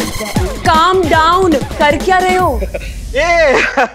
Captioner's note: Laughs